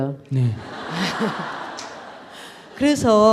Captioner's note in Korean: 청중 웃음